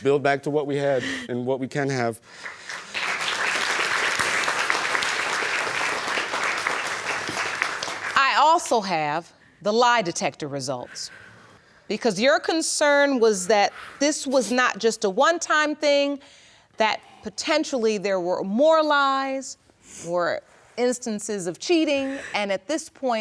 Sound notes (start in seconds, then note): 2.3 applause